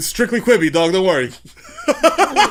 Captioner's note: laughs